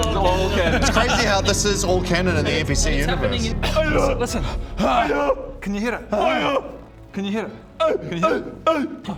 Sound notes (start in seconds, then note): 3.7 ahurgh